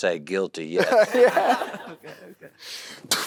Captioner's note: laughs; audience laughing